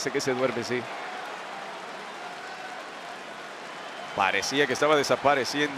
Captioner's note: applause